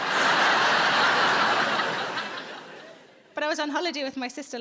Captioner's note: audience laughs